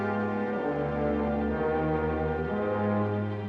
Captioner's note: none